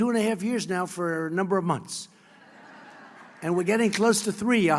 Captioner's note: laughter